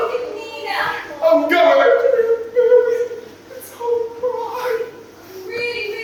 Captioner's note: sobbing